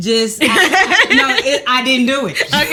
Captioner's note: laughs